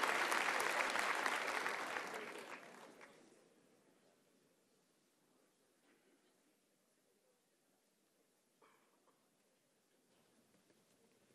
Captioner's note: applause